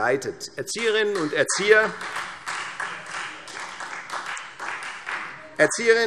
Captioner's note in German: Beifall Freie Demokraten